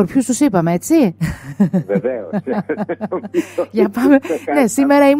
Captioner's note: laughter